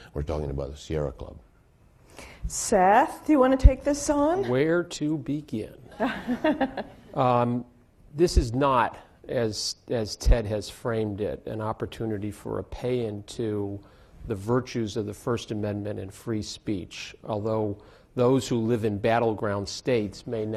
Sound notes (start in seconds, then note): 6.0 laughing